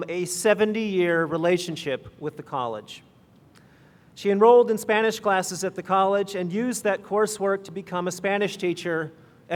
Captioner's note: none